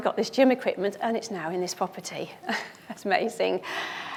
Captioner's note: chuckles